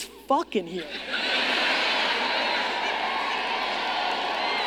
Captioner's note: audience laughing